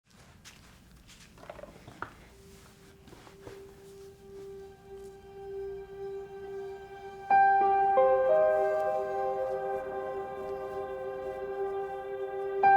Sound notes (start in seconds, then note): 0.0 footsteps; 2.3 melancholy music